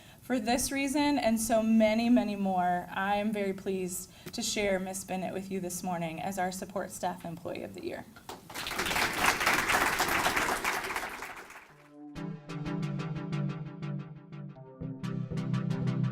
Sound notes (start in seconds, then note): 8.3 audience applauds; 11.7 upbeat music